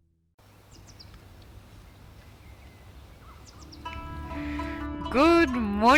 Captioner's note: birds tweeting; tranquil music